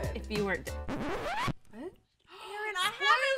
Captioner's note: disk squeaking